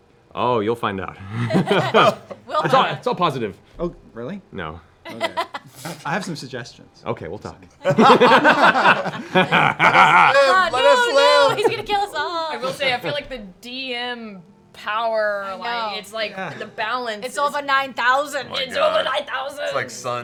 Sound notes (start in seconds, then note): 7.8 laughter